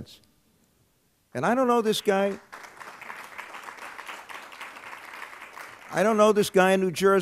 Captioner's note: applause